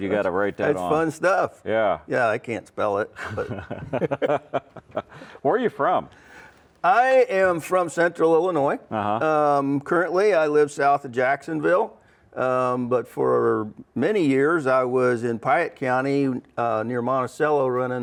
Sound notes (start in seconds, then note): 3.1 laugh